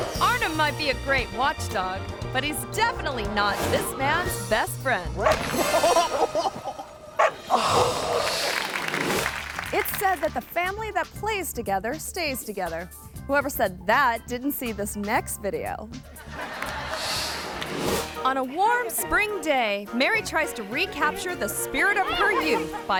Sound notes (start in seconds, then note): 5.2 dog's paw thumps; 5.4 reporter chuckles and groans; 7.2 dog barking; 7.8 image whooshes; 8.0 audience clapping; 16.1 audience laughing